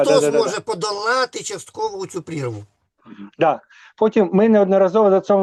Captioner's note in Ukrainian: прочищення горла